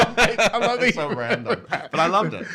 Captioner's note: laughs